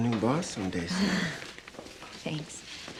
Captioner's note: chuckles